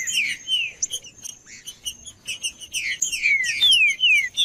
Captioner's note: trinca ferro cantando